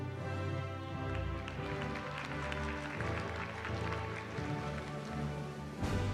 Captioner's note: applause